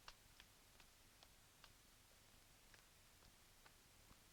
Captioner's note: none